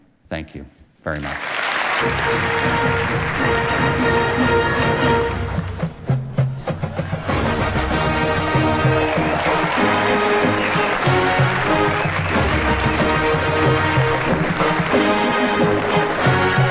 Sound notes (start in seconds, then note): 1.1 audience applauding; 2.8 ceremonious music